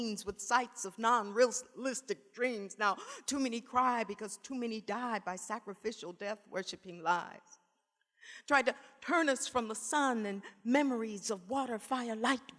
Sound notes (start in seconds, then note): none